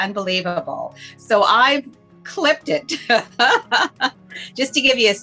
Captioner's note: laughs